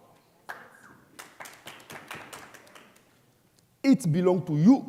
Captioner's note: audience applauding